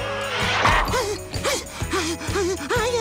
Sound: panting

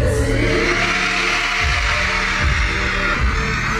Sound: crowd cheers

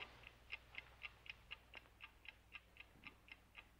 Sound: clock ticking

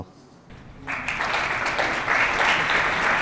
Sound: applause

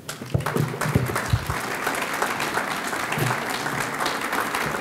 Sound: audience clapping

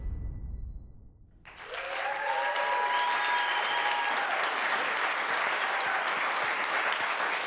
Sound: light dramatic music; people applauding; people cheering

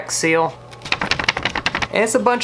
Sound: paper rustles

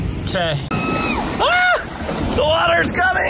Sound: dad screams

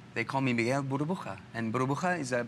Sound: foreign language

